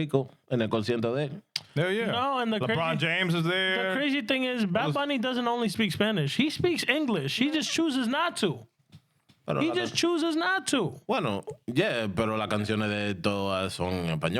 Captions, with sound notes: Yeah, yeah. LeBron James is there. The crazy thing is, Batman, he doesn't only speak Spanish. He speaks English. He just chooses not to. He just chooses not to. Well, no, yeah. (Speaking In Spanish)